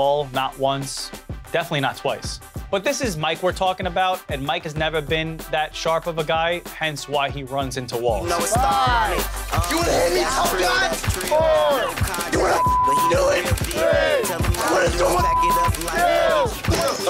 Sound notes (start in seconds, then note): 8.5 upbeat music; 11.5 people chattering; 12.3 crowd; 14.8 man chattering